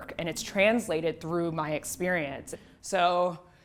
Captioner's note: none